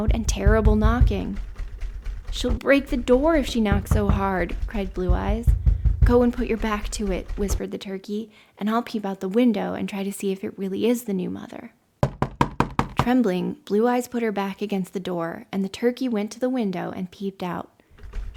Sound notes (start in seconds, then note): 0.1 knocking, door handle rattling; 12.0 knocking; 18.0 knocking, door handle rattling